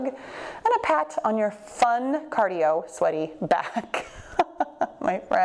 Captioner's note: laughs